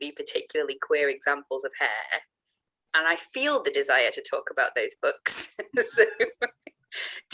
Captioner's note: laughs